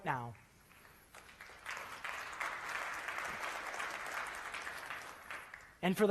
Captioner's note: applause